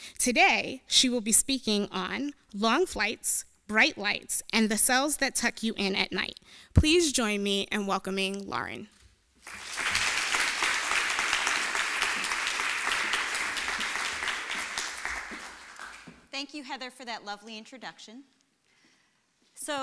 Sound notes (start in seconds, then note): 9.4 applause